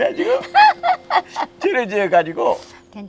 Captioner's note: both laughing